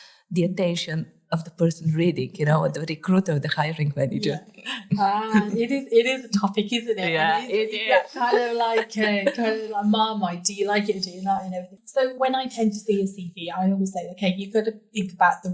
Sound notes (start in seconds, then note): 9.5 laughing